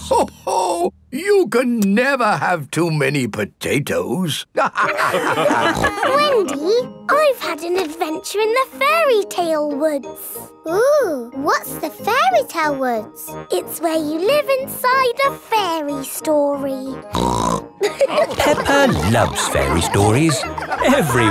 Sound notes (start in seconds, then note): 4.6 all laughing; 17.1 snorts; 17.8 all laughing